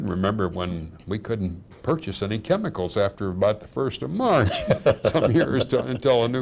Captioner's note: laughing